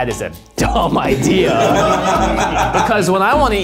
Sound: everybody laughs

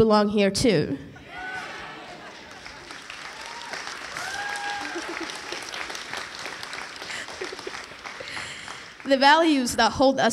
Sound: cheering

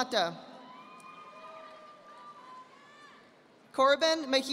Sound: audience applauding

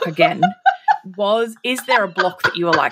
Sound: laughing

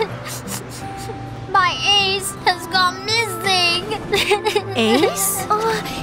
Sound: Duri continues crying

